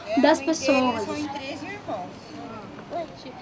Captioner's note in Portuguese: Conversas